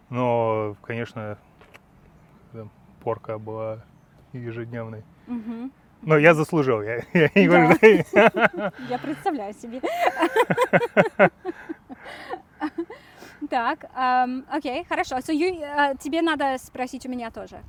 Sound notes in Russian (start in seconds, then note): 9.7 смех; 10.8 оба смеются